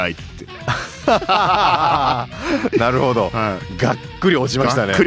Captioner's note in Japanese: 笑い